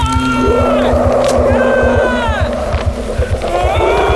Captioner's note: shouting!; creatures roaring and groaning!; shouting!